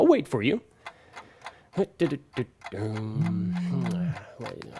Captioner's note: wating patiently for viewer, humming; phone vibrates